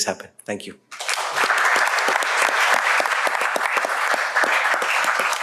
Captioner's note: applause